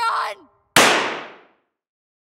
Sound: gunshot

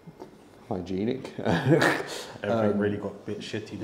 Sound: laughs

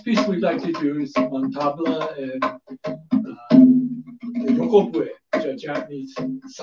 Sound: speaks foreign language

